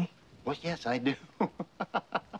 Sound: laughs

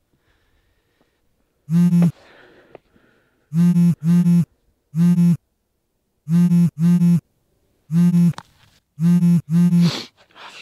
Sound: phone vibrating

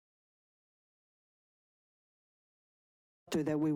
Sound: silence

